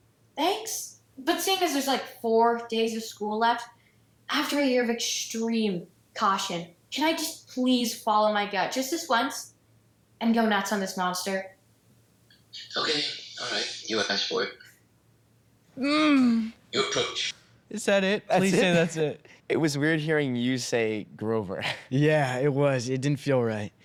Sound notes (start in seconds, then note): 15.8 groans